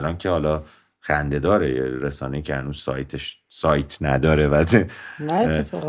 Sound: laughter

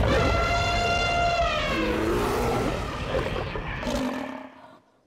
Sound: trumpeting; growling

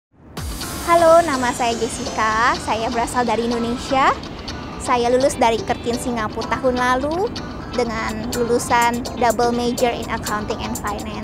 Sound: Indonesian

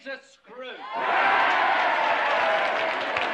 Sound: crowd cheers

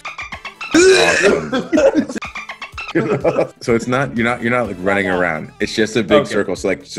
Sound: laugh

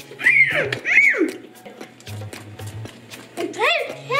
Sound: high pitched squealing

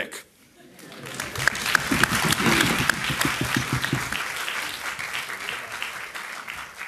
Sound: audience applauding

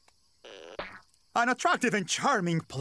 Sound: boing

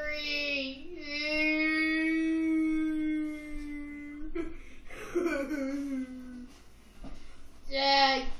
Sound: crying sound

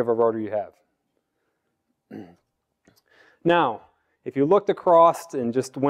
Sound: cough

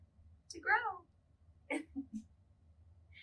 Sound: giggles

